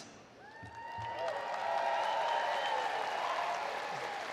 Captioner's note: audience cheering